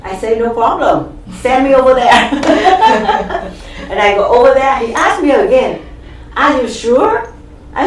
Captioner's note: all laugh